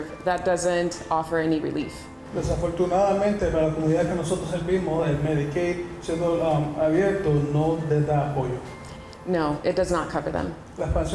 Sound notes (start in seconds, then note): 2.3 interpreter speaking in Spanish; 10.9 interpreter speaking in Spanish